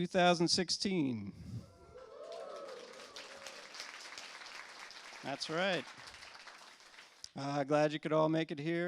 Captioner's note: cheers and applause